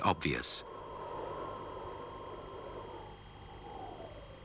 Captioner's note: wind howling